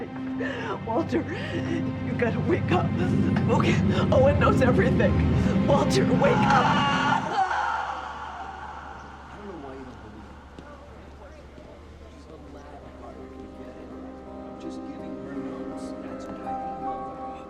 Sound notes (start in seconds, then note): 6.2 Leona screaming